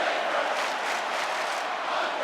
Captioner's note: audience clapping